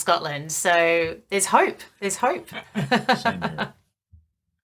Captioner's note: chuckling